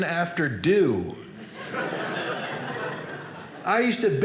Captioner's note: audience laughing